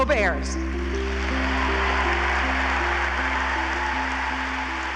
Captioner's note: audience applauding